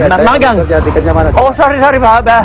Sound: speaking indonesian

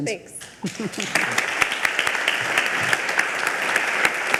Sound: all applaud

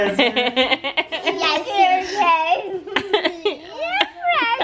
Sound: laughing

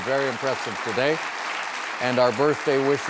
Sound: audience claps

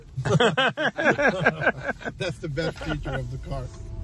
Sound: both are laughing

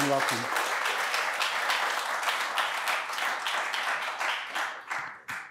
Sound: applause

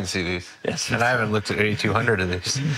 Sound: laughing

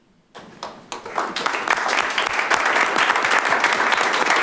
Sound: audience applauding

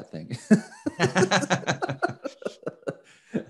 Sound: laughing

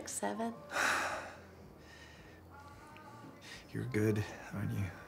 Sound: sighs

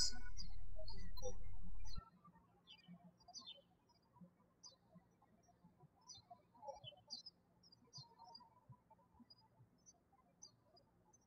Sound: birds chirping

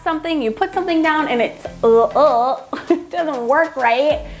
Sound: laughs

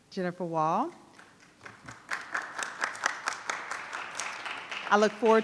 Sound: audience applauding

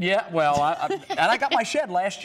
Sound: laughter

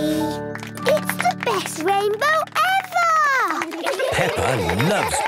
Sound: laughter

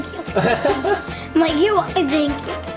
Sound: laughing

